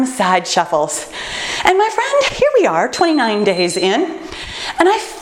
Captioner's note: timer beeps